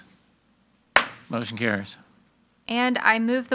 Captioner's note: gavel bangs